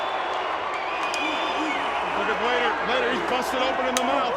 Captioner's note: crowd chatter